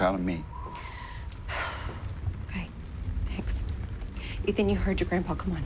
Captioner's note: sighs